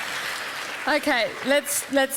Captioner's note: applause